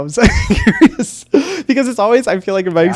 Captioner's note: laughs